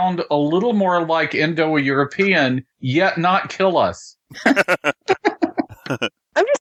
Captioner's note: laughter